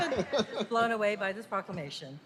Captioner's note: laughter